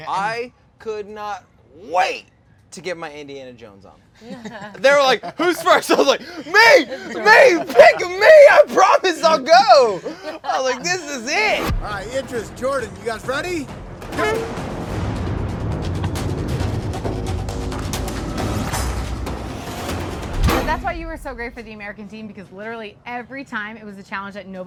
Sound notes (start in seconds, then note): 4.4 laughing; 11.4 air whooshing; 14.0 horn blares; 14.8 dramatic music